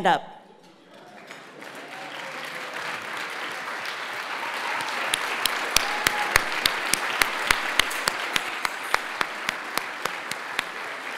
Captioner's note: applause